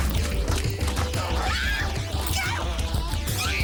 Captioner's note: energetic rock music; Jodie screaming